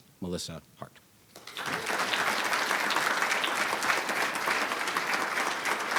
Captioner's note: audience applauding